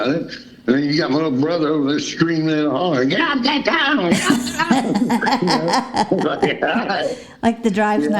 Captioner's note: laughter